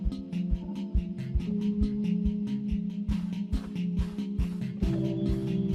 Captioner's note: camel walking along the ground